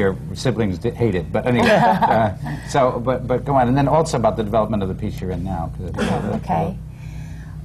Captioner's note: laughter